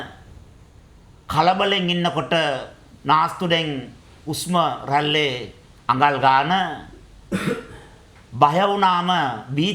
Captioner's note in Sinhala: උගුර කෑරීම